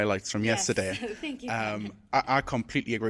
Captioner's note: chuckles